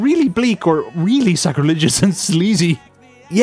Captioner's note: chuckles